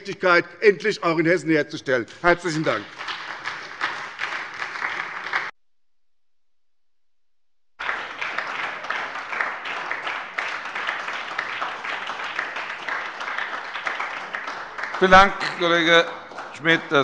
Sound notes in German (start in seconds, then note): 4.0 Beifall bei der SPD